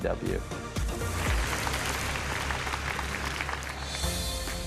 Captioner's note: crowd applauding